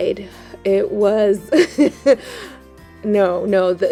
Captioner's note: laughs